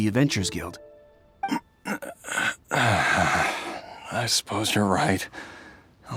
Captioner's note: sigh